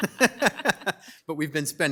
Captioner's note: laughing